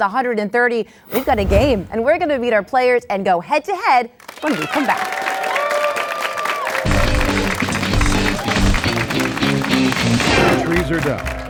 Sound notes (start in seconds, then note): 4.2 applause; 6.8 upbeat guitar music